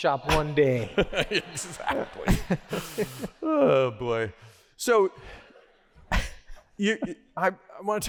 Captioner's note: laughter